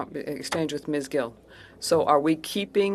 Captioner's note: speaking in French